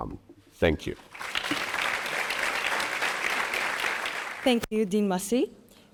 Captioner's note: audience applauding